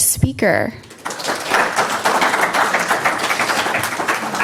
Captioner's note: audience applauding